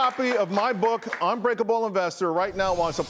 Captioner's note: applause